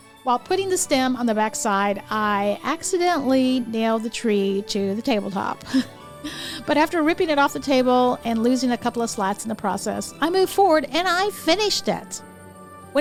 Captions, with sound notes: While putting the stem on the backside, I accidentally nailed the tree to the tabletop, (chuckles) but after ripping it off the table and losing a couple of slats in the process, I moved forward and I finished it.